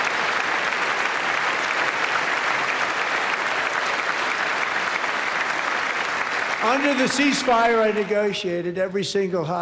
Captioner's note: applause